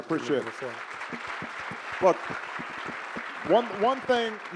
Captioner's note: audience applauding